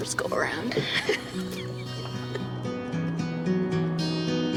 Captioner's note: laughs